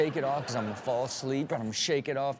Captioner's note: audience laughs